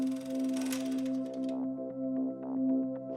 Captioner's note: whirring stops